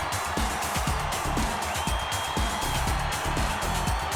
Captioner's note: crowd cheering